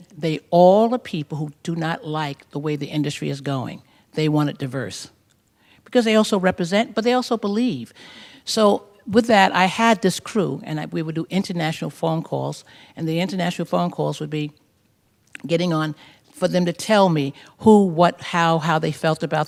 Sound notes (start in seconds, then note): none